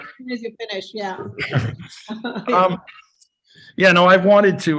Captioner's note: chuckles